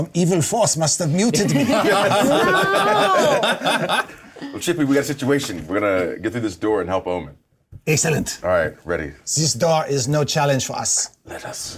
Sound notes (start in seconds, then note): 1.4 laughter